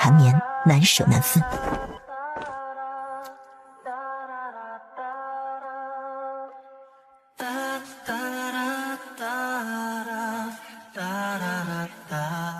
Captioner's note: sound effect